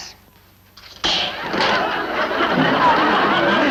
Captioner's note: pie hitting glass